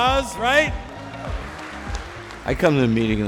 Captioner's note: hands clap applause